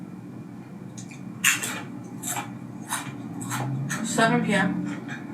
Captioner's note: chip crunches